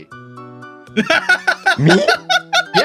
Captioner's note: laughing